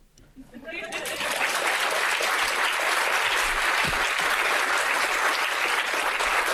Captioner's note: audience laughing and applauding